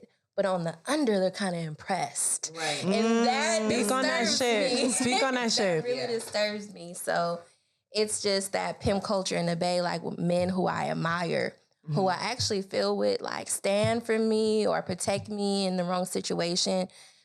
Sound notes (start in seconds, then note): 2.6 laughs